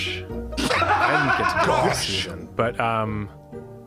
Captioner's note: laughs